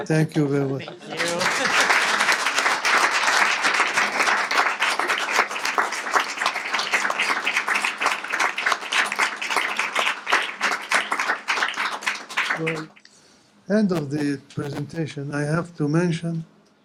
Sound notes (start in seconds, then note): 1.4 applause